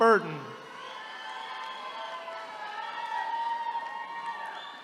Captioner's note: attendees cheering